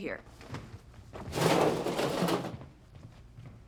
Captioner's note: metallic clatter